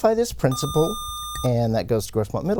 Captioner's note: buzzer